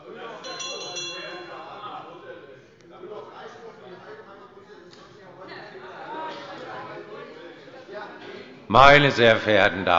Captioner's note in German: Unruhe - Glockenzeichen des Präsidenten